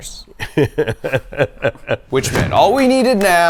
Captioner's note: laughing